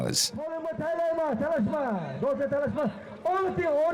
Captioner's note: man speaking Uzbek over a microphone